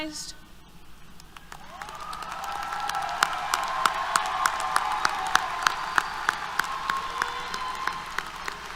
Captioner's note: applause, Cheers